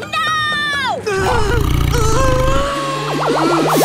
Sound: grunting

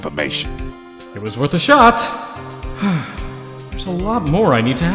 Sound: sigh

